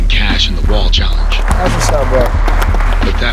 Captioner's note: clapping